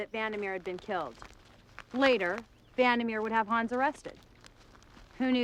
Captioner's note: none